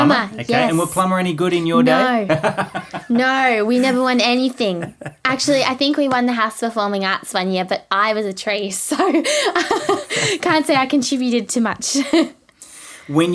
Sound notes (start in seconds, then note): 4.5 laughing; 8.9 laughing